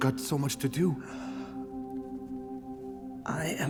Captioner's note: gasps